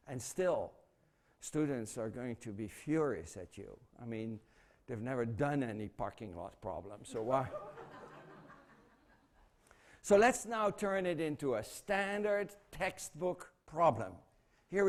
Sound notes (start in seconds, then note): 7.1 laughter